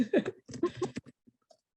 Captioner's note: laughs